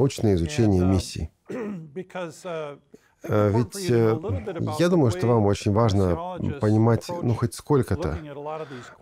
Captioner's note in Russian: откашлялся